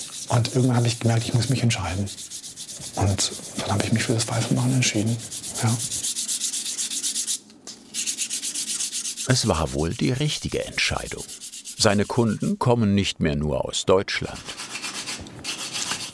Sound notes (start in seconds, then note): 6.4 grinding noise; 14.5 rough grinding noise